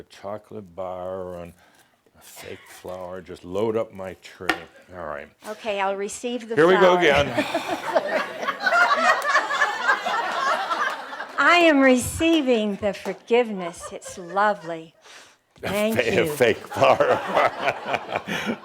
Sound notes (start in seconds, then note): 7.1 laughter, as sighs and offers the tray to her again; 15.0 sniffing the flower; 15.6 laughs